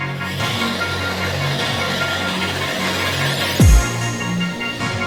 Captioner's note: machine operating; upbeat music